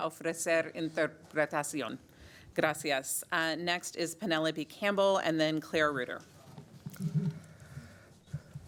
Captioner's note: speaking spanish